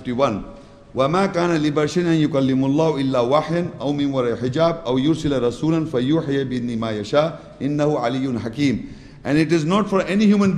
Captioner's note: Arabic